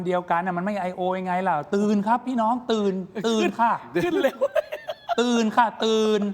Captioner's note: laughs